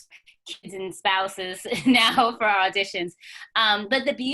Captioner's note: chuckles